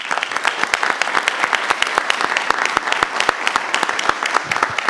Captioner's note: everyone applauding